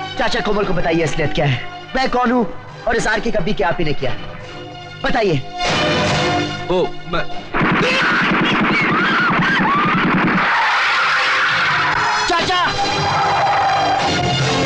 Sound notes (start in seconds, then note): 6.6 stammering; 7.5 hand Machine Gun Firing; 8.8 tire Screeching